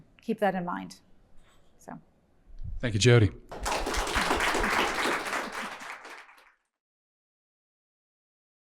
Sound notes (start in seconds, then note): 3.5 people clapping